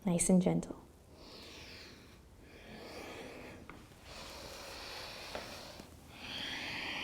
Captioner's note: breathing